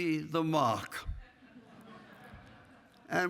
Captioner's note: laughing